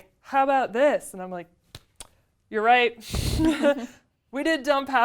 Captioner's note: laugh